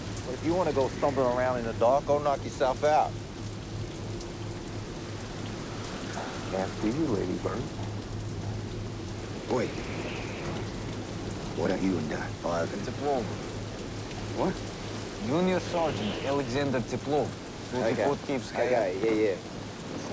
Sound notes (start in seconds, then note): 3.3 rain pattering; 3.3 wind whistling